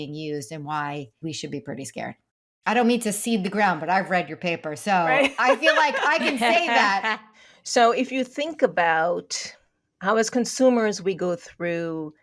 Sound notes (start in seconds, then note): 5.1 laughing